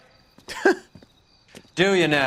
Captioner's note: laughs